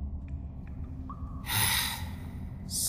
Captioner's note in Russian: вздох